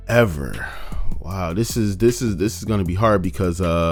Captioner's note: sighs